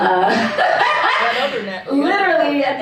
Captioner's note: laughter